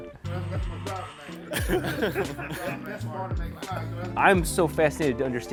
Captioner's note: laughing